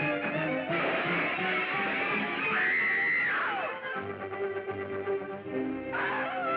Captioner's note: crashing; screaming; screaming